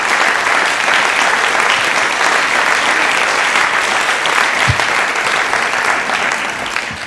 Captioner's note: audience applauds